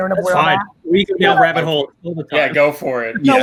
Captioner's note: fumbles